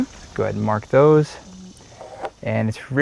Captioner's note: pencil marring wood surface